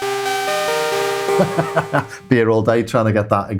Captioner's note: laughs